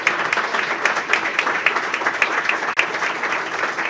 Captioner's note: applause